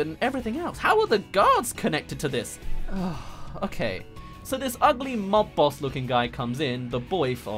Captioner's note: sigh